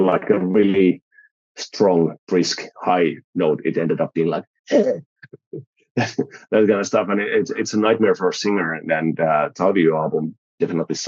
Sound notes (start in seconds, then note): 5.2 creaky voice